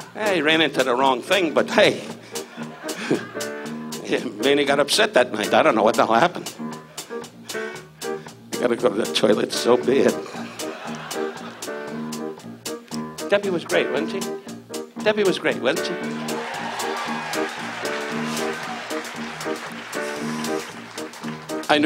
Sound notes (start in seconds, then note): 2.5 laughs; 10.1 audience laughs; 16.1 audience cheers; 19.5 upbeat piano music